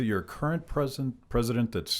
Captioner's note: none